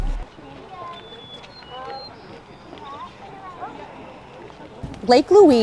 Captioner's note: birds chirping; group chattering